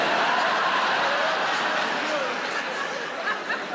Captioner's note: audience laughs